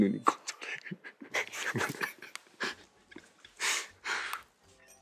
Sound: laughing

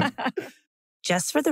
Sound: laugh

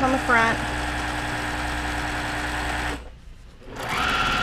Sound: machine whirring

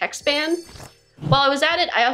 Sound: jingling sound

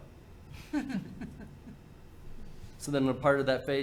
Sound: board member laughing

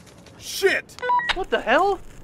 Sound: walkie talkie

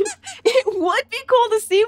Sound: squeaks squeaking

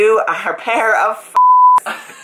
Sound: beep

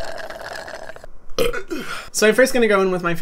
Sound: slurping; belching

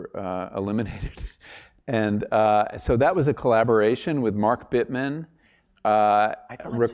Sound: laugh

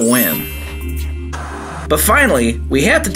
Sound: electrical static

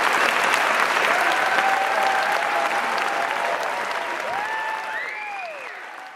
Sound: applause continues, fades

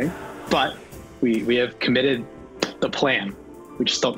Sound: clap

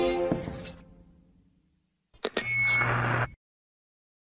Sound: audio feedback

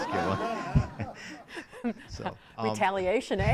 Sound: audience laughing

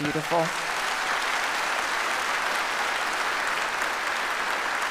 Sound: audience applauds

